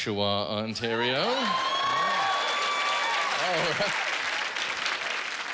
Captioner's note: cheers and applause